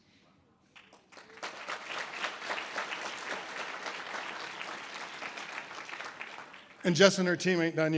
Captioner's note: audience applause